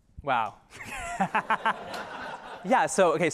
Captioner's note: laughter